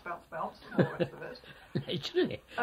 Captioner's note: laughs